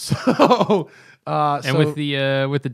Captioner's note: laughter